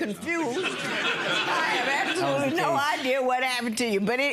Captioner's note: audience laughing